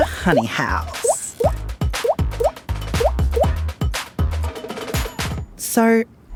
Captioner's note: speech bubbles blooping; upbeat music